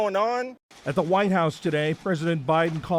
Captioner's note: voice-over